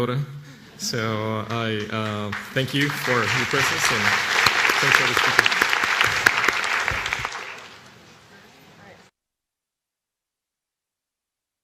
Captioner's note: applause